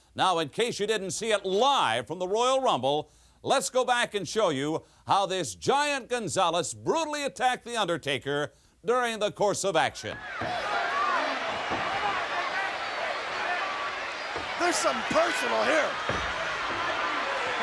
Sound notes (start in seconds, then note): 10.1 applause